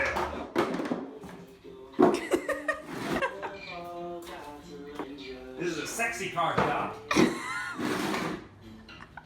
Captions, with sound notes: [Laughing] This is a sexy car shop!